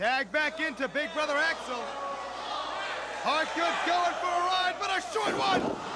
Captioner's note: crowd chatter